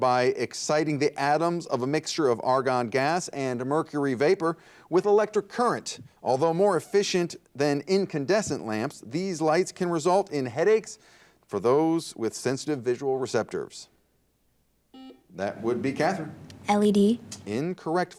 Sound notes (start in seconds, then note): 14.9 buzzer dings